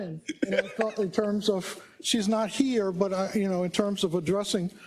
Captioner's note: laugh